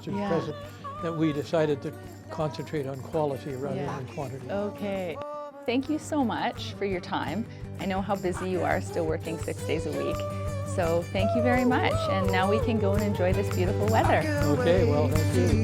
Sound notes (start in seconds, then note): 8.2 laughs